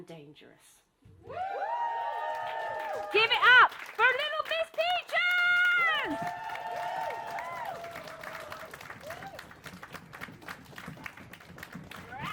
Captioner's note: applause